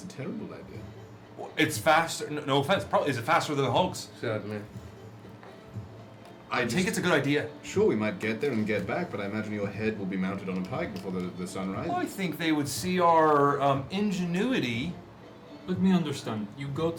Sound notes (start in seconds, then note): none